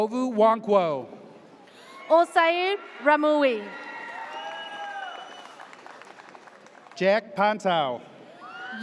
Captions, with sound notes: Ogu Wankwo. - Olsayid Ramuie. (audience cheers) - Jack Pontow.